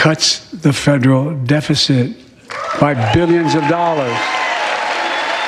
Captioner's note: cheers and applause